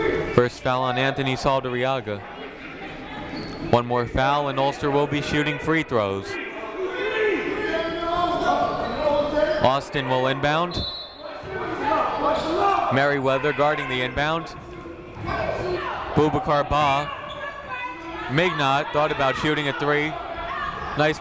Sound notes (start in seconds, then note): 7.3 shouting